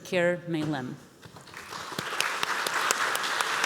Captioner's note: applause